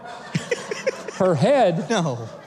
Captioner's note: laughing